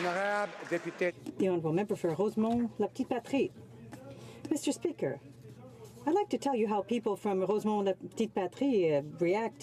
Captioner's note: some applause